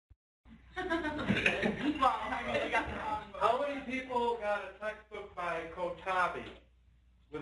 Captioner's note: laughing